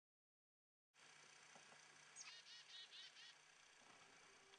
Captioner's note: birds chirping